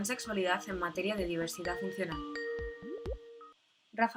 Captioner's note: Sonido llamada de Skype